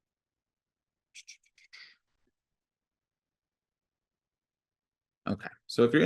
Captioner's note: imitating sound whooshing